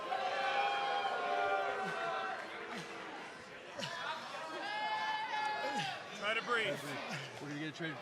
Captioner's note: cheers and boos